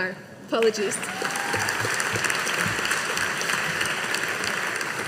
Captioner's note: audience applauding